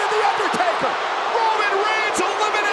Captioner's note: audience cheers